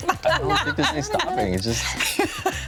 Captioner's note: everyone laughs